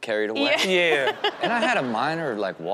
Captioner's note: audience laughs